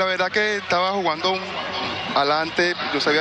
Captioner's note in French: speaking spanish